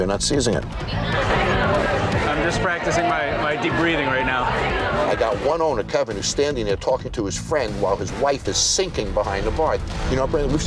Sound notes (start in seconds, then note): 0.8 customers chattering loudly